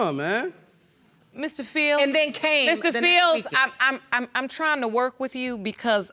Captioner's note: stuttering